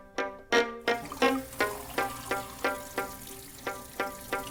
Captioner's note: water sloshing